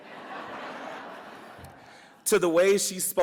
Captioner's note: audience laughs